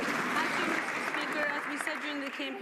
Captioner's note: some Applause